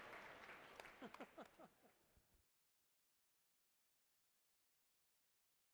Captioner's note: applause